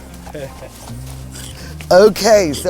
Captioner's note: speaker laughs